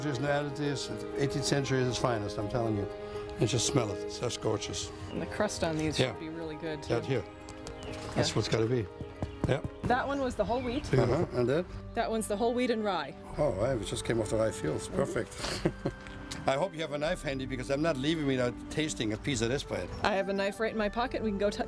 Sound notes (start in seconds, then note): 9.4 tapping on bread